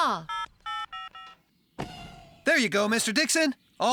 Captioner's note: phone Buttons Beep